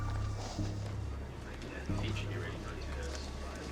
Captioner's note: chattering